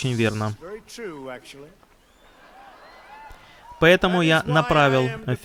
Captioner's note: laughter